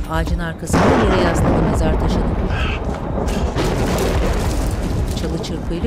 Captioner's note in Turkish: Gök gürültüsü sesi